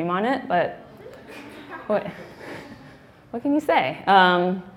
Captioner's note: laughing